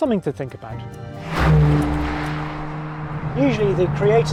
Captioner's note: engine revs